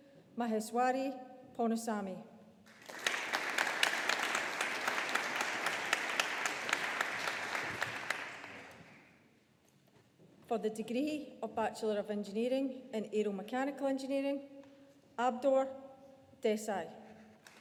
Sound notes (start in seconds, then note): 2.7 audience applauding